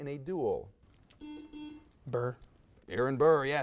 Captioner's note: buzzer buzzes